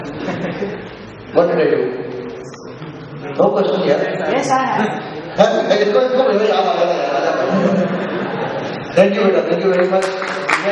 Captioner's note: crowd